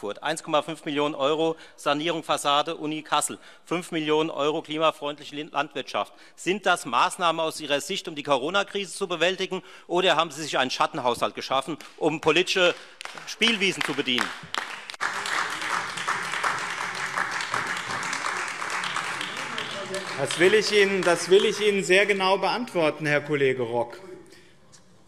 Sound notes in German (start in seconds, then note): 15.4 Beifall Freie Demokraten und AfD